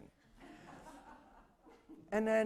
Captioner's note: laughter